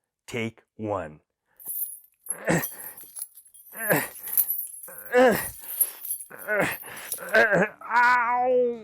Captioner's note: grunting